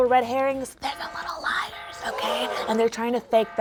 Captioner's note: alarm beeping; crowd gasping